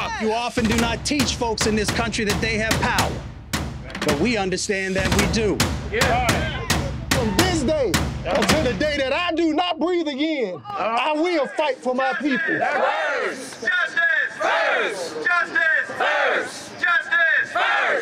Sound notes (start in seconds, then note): 5.9 crowd shouts affirmations; 12.3 chanting